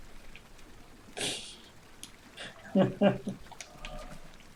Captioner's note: laughs